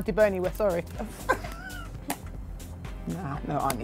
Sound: laughs

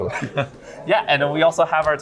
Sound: laughs

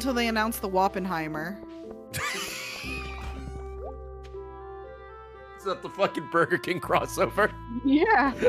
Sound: laughs; laughs

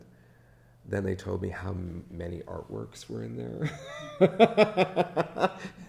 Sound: laughs

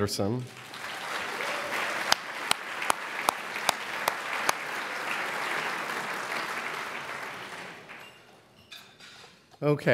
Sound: applause

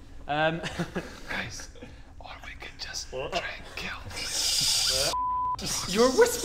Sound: whispering

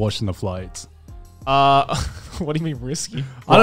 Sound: chuckles

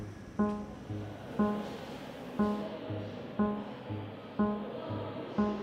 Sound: school noises in the background

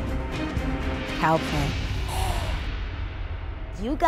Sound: gasping

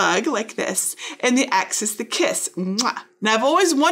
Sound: kisses

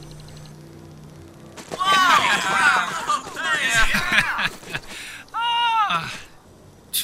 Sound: cheering in amazement; laughing hysterically

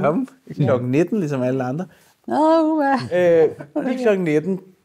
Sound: laughs

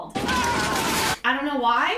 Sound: yells; gunfire echoes

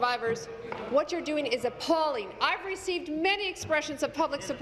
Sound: tapping of desks

